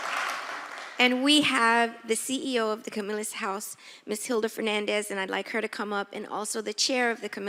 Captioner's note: applause